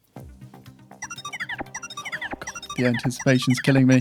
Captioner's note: phone chiming